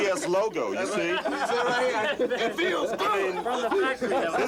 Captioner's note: laughing